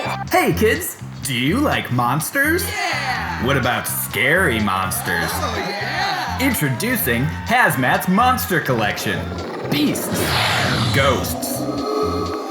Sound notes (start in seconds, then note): 8.6 growling sound